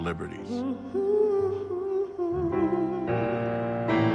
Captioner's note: vocalist humming